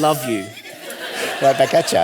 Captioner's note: audience laughing